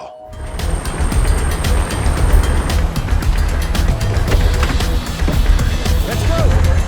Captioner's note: dramatic music; helicopter whirring